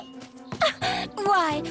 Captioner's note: giggles